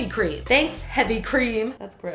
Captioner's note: sassily